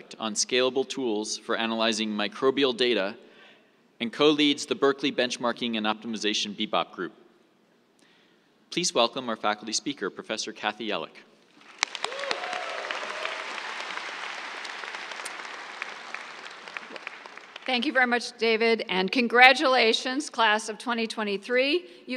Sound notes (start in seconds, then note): 11.5 applause